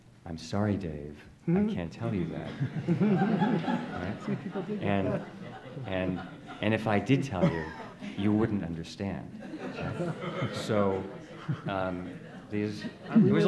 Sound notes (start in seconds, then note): 2.6 everyone chuckling; 9.5 everyone chuckling